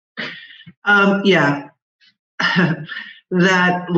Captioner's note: chuckles